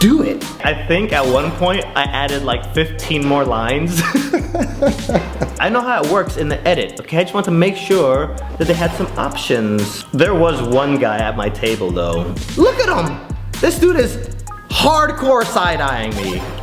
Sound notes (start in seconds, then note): 3.5 laughs